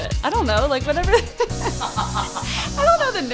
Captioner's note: laughs